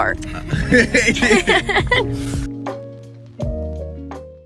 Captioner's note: laughing